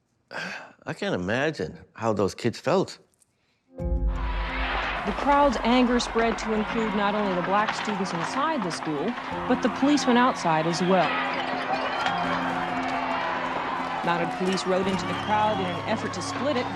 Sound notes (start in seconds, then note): 0.3 exhales; 4.0 crowd shouting; 10.8 crowd shouting, glass breaking